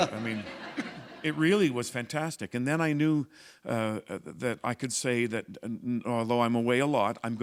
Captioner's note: laughter